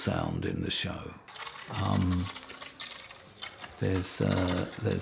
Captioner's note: ice cracks